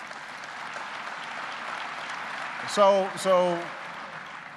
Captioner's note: applause